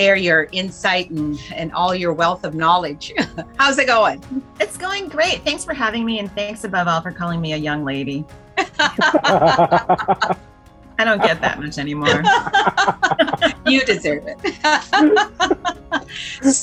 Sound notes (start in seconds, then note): 8.6 laughs